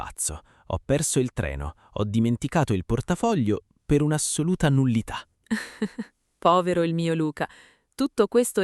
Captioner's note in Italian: risate